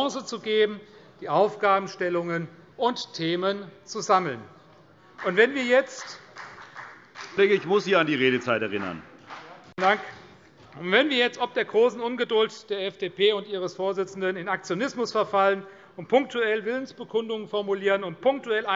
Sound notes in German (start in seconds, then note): 5.1 Beifall CDU